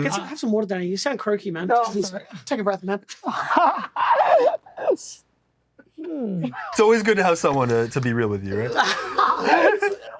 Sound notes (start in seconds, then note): 3.2 laughs; 8.6 all laugh